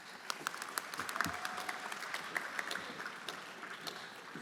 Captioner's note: everyone applauding